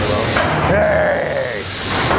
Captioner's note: growls